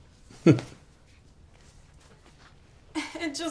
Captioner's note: chuckles